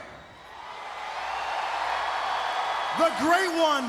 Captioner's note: crowd cheering